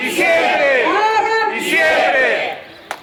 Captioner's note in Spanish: Voz en megáfono